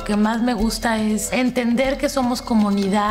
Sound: speaking spanish

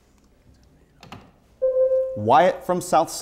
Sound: buzzer sounds

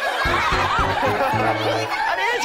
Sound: more giggles, the kids love this stuff

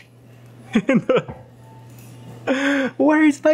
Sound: laughs

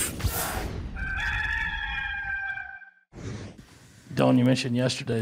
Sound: rooster crowing

